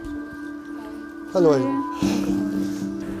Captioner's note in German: Piepsen